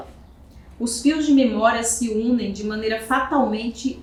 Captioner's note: speaking portuguese